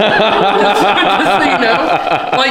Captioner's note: laughing